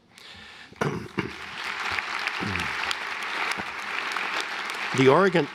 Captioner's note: applause